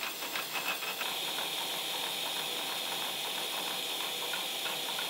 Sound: machine buzzing

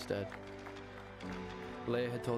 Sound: PEOPLE APPLAUDlNG

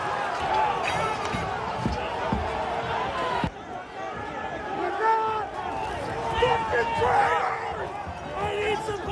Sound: shouting

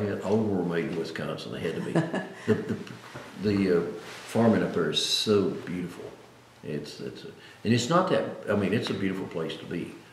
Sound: laughs

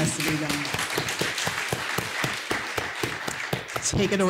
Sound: applause

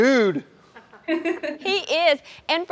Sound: laughing

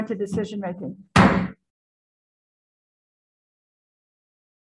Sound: gavel banging

